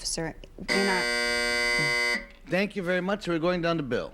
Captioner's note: buzzer buzzes